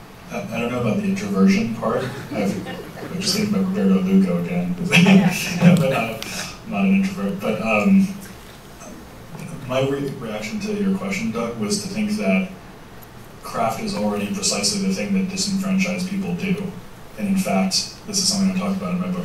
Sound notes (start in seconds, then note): 2.0 laughter; 4.9 laughs